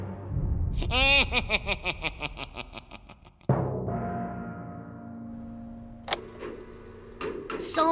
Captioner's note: laughs